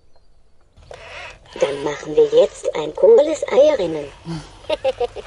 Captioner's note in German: lacht